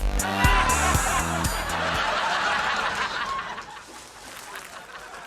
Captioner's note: audience roaring